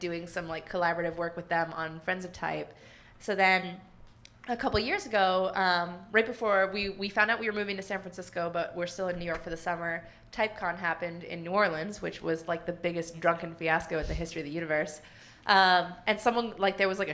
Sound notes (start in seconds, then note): none